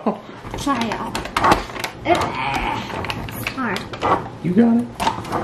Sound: laughing; growling

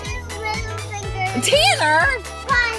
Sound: voiceover

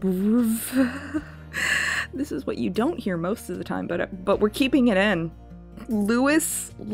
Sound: loud inhale

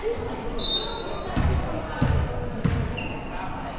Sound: whistle

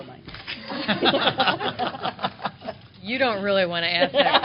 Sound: laughter

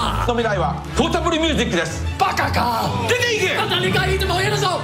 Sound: speaking foreign language

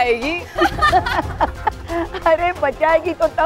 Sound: crowd laughing

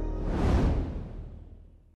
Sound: air whooshing

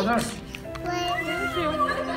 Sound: babbles

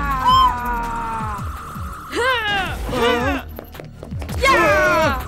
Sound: screaming and grunting

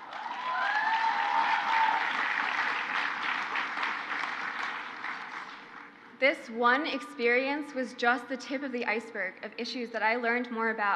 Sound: crowd cheers

